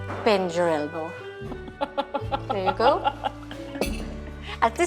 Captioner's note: laughs